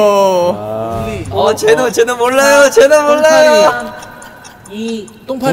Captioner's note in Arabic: تستمر الساعة بالدق